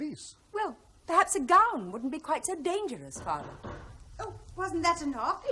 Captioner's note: knocks on door